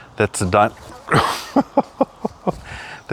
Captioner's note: laughs